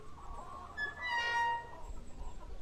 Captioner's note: gate closes